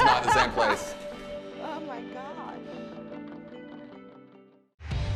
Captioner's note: laughing; upbeat rock music